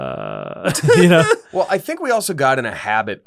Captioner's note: laughter